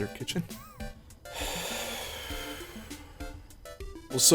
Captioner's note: sigh